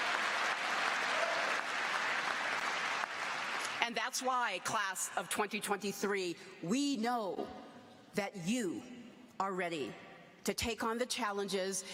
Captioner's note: applause